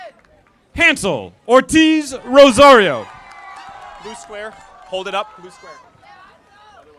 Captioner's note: audience applauding